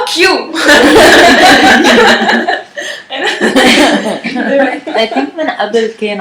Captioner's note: laughter